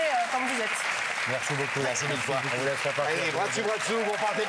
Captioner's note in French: Applaudissements